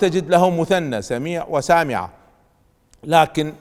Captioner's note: in the Arabic language